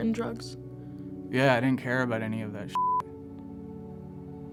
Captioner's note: beep